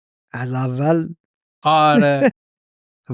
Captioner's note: laughs